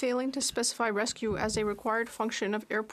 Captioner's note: speaking French